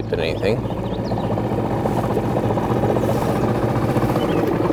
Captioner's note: motor trolling